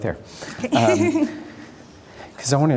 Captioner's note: laughter